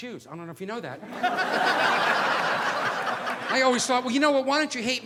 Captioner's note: audience laughing